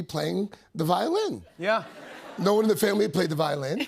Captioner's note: laughter